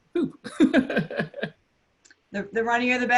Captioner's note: laughs